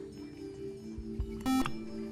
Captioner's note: buzzer